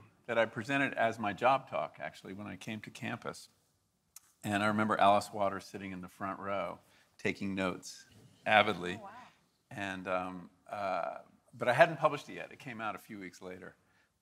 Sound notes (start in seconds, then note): none